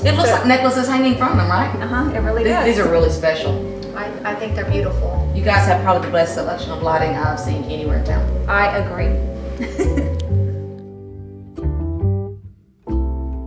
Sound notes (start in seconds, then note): 9.6 laughs; 10.7 melodic music